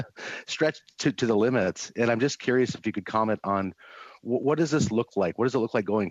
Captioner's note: laughter